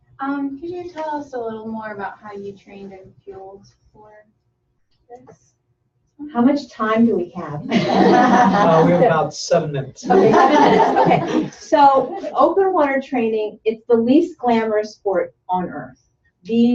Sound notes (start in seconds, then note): 7.6 laughter